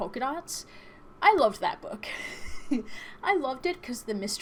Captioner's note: chuckles